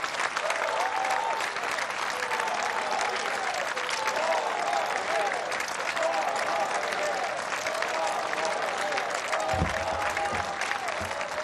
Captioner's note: applause